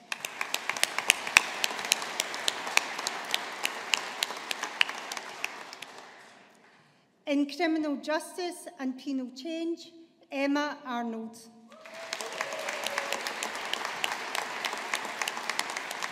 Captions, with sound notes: (AUDIENCE APPLAUDING) In Criminal Justice and Penal Change, Emma Arnold. (AUDIENCE APPLAUDING)